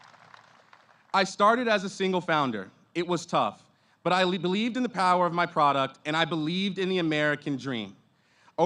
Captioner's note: applause